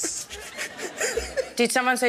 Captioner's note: laughs